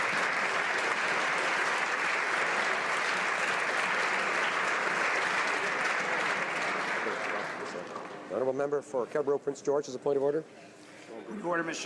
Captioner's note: applause